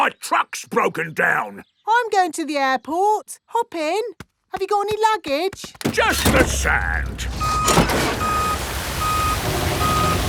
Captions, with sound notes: but my truck's broken down. I'm going to the airport. Hop in! -Have you got any luggage? -Just the sand. (BEEPING)